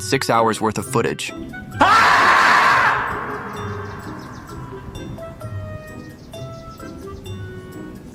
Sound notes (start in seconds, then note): 1.7 screaming